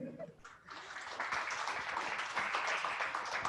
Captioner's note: clapping